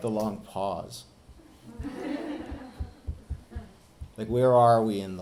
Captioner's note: audience laughing